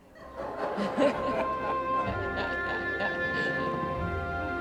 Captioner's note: laughter